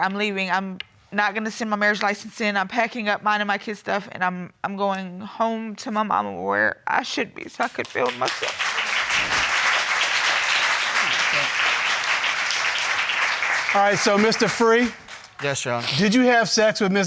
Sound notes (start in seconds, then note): 9.9 applause